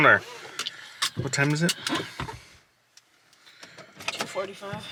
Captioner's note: buckle clicks